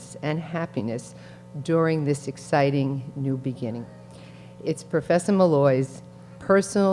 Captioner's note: none